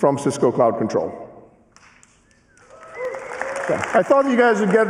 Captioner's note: cheering and applause